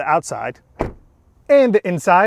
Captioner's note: door bangs